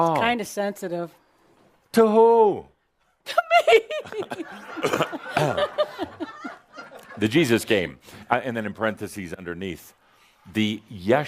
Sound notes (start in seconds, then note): 3.3 she fakes a crying sound and giggles